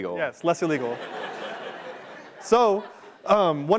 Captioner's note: laughter